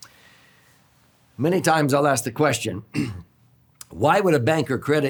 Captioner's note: clears throat